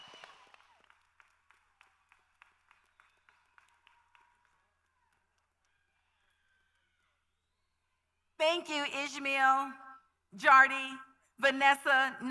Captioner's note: cheers and applause